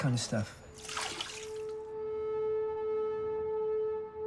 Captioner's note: wine splashes